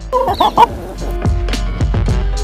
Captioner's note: chicken clucks; pop music